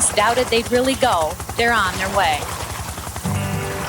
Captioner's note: paddling sounds, helicopter; upbeat folk guitar music